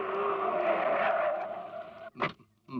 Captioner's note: brakes squeal